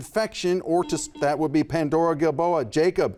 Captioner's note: buzzer buzzes